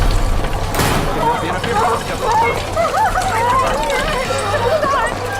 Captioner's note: more sobs; sobs